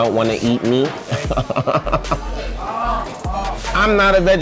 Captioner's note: laughs